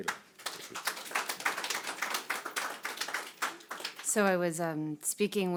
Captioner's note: audience applauding